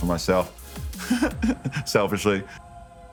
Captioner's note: chuckling